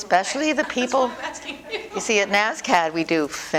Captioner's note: laughter